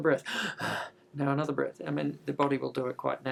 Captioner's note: inhaling